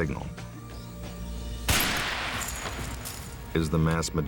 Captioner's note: gun bangs; glass shatters